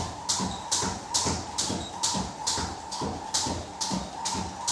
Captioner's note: rope whistling continues